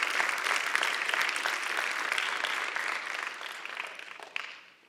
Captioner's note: applause